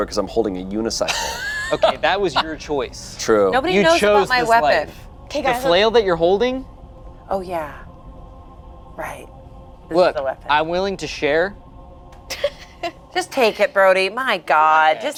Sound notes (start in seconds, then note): 12.3 laughs